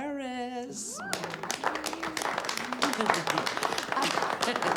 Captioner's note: faculty applauds